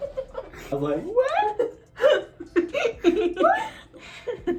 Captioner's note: both laugh; high voice; laughs